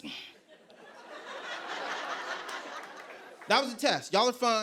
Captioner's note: laughter